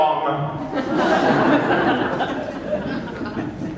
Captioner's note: laughter